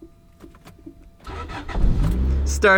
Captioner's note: engine starts